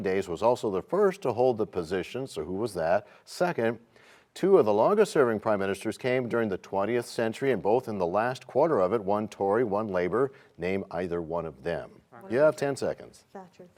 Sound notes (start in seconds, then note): none